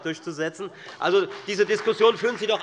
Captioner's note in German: Beifall bei der FDP